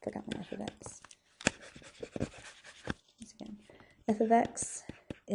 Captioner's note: stylus writing on board